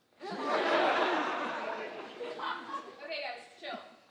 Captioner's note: audience laughing